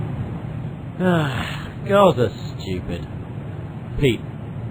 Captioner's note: sighs